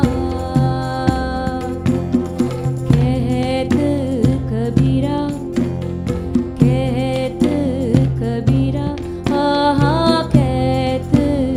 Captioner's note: laughs